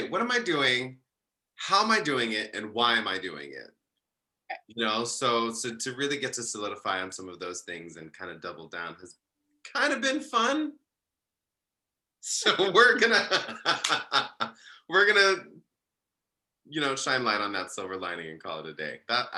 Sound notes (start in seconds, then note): 13.0 laughs